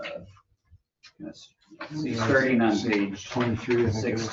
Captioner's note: overlapping chatter